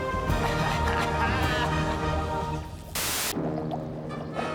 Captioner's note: <i> laughing</i>